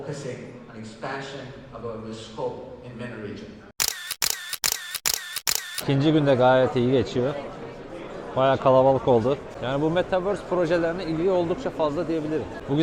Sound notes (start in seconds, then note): 3.8 camera Sound